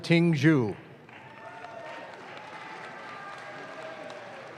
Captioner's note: audience claps